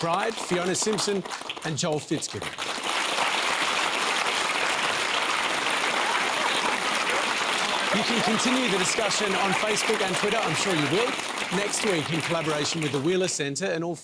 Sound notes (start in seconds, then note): 3.0 applause